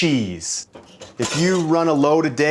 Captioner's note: clanking